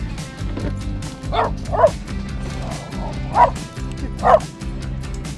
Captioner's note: dog barking